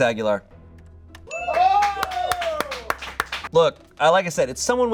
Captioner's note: bell dings; audience cheering